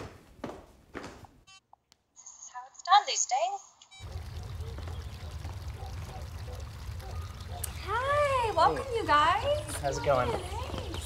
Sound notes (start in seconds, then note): 4.0 water flowing